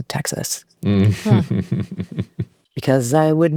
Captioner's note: laughing